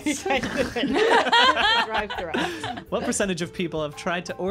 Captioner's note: laughing